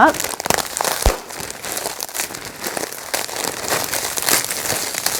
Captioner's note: zip top bag rustling